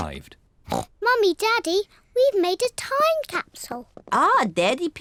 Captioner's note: oinks